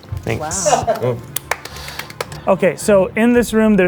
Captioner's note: clapping